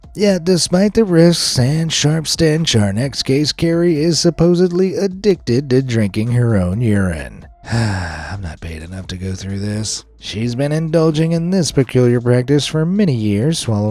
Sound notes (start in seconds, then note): 7.6 sighs